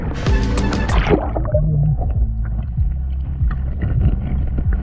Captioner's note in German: Wasser gurgelt